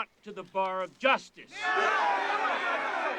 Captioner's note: crowd yelling